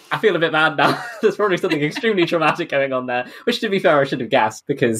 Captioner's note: laughing